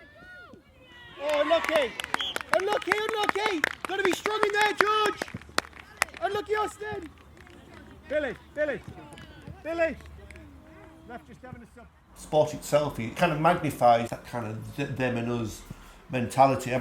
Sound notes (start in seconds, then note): 1.2 applause